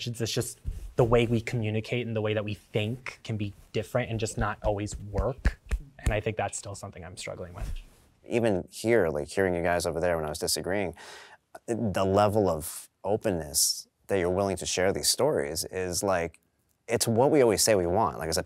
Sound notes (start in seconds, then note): 4.1 knuckles thudding together